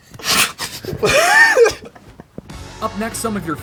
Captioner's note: laughing